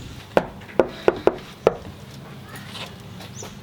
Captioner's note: door knock